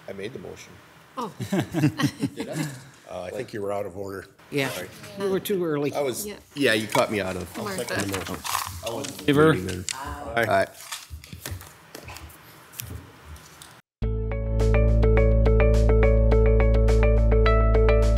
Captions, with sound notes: - I made the motion. - Oh. (board members laughing) - Did I? - I think you were out of order. - Yeah. - Sorry. - You were too early. - I was, yeah, you caught me out of- - I'll second the motion. - Favor? - Aye. (bright music)